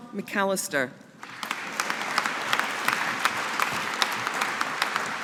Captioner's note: audience applauding